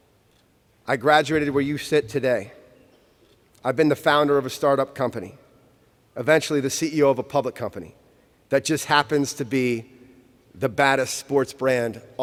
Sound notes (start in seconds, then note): none